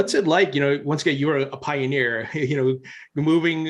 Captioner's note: chuckles